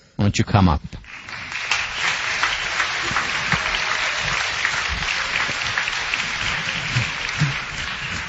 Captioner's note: applause